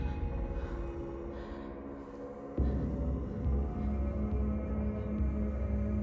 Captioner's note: Ellie breathing heavily; Ellie gasping softly; melodic haunting music